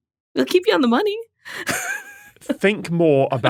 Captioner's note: wheezes